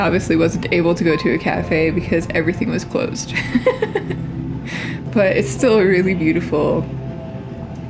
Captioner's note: laugh